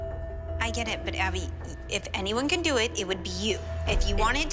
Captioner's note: none